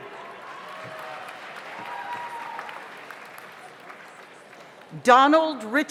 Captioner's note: audience cheers; audience applauds